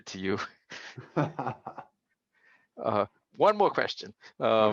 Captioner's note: laughter